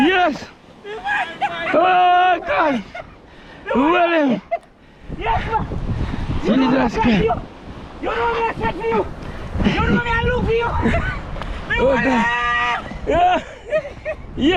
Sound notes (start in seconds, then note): 11.6 screaming